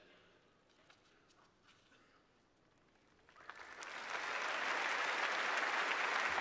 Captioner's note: applause